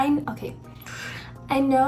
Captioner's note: exhale